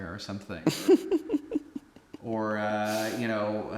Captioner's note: Anubis giggling